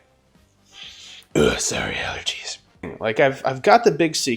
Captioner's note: sniffing